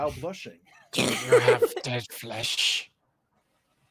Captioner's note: laughs